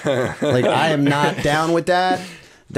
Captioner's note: laughter